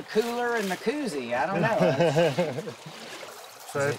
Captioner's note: laughing